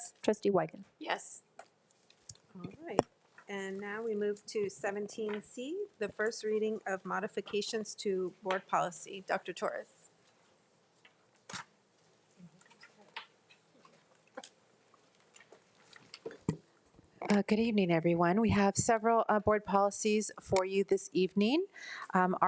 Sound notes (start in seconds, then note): 13.5 speaker speaks faintly